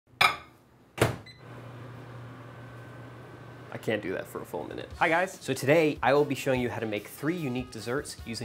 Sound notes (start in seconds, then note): 1.0 closing door; 1.0 microwave beeping; 2.7 microwave running